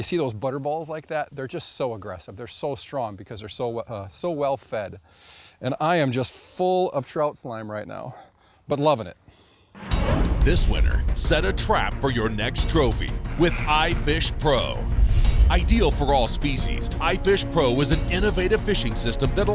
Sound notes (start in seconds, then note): 10.9 voiceover